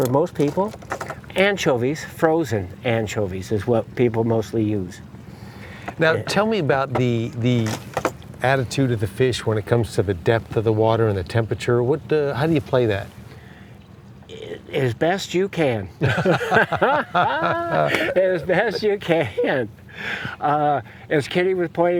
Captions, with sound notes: The biggest thing for most people is anchovies. Frozen anchovies is what people mostly use. -Now, tell me about the attitude of the fish when it comes to the depth of the water and the temperature. How do you play that? -As best you can. (laughter) As best you can.